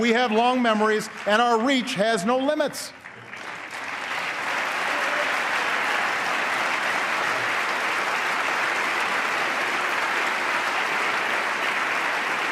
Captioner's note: applause